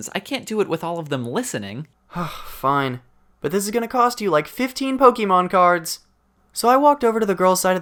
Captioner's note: sigh